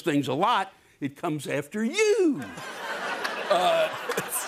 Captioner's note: laughter